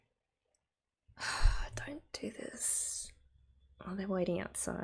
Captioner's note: exhales